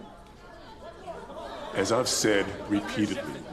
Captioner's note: people clamoring